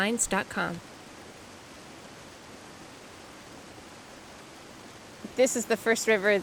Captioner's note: river rippling